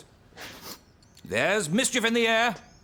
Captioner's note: sniffs